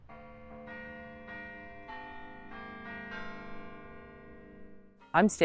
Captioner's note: bells pleasantly chiming